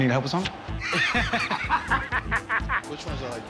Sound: both laugh

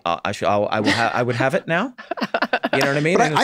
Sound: group laughs

